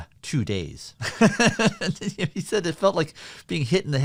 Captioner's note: laughter